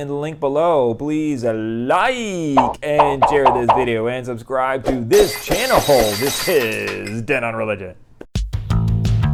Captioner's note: glass breaking